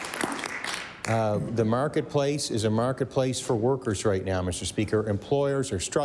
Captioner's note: applause